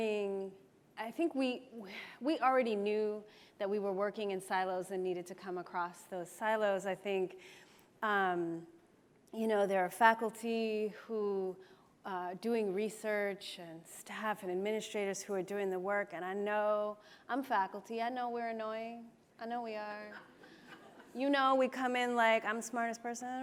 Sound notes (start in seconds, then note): 20.1 laughs